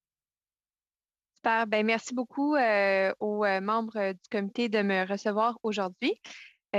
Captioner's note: speaking French